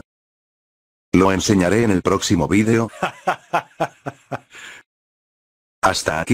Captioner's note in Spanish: Risas